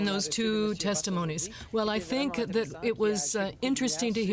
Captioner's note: speaking French